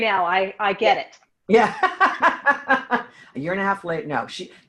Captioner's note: laughs